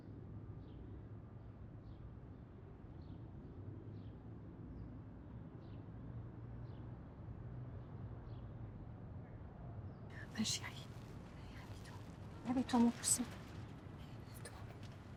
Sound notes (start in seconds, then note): 10.5 speaking in French